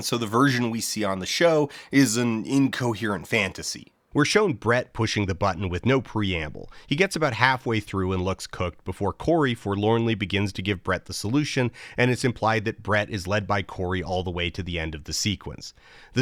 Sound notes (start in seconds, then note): none